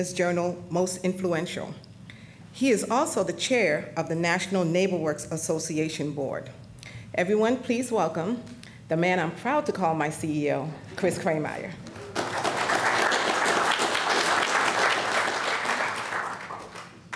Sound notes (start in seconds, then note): 11.8 applause